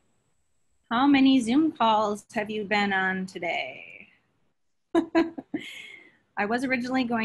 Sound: laughs

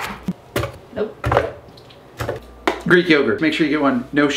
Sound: thumping

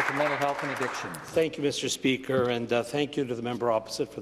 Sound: applause

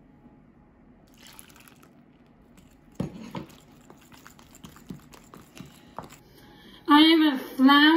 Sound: pouring

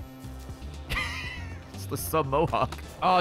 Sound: laughs

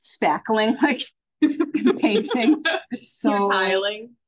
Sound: laughs

